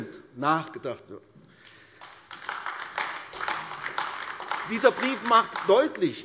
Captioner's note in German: Beifall AfD